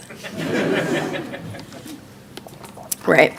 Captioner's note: audience laughing